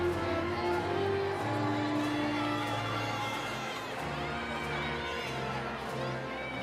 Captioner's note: overlapping chatter; audience cheering